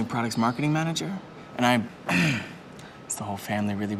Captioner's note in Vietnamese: e hèm